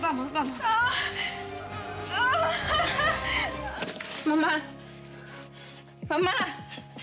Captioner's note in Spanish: gemidos y gritos